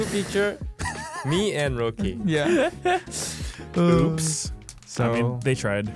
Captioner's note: laughing